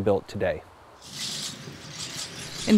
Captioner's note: NATSOT: Signing ceremony/Cameras clicking